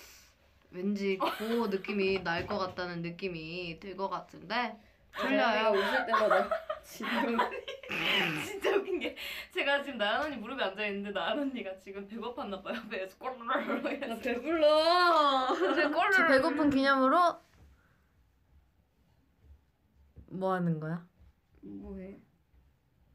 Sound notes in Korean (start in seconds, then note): 7.6 푸흡